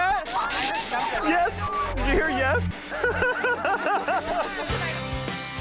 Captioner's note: laughing